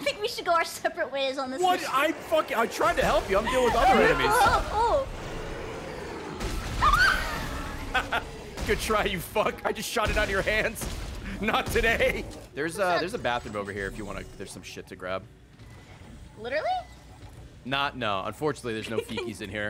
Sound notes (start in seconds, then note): 6.5 screams; 7.3 laughs